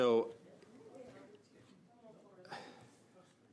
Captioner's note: conversation din